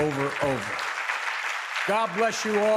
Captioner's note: applause